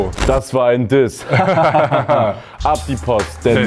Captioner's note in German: Lachen